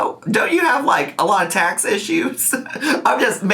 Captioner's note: laughing